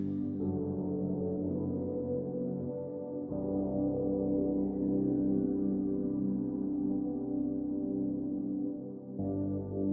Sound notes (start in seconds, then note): 0.2 soft synth music; 3.1 muted voice